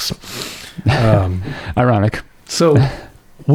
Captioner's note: chuckles